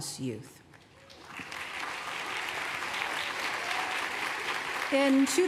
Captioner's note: applause